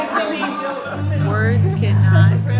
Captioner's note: laughter; group cheering